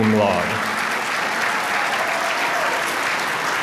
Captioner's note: applause